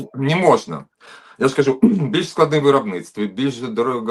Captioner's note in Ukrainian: прочищення горла